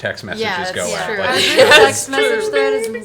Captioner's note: laughs